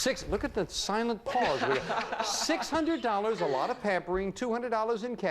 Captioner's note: audience laughing